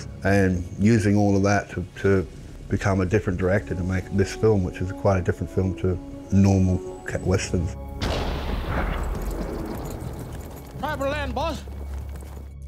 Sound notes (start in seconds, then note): 8.0 lightning strikes